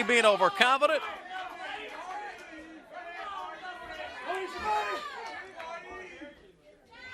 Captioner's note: crowd chatter